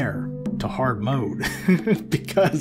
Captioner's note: laughing